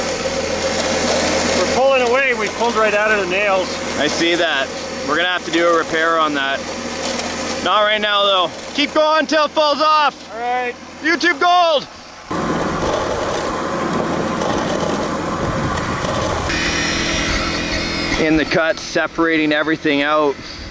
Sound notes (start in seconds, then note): 12.5 machines humming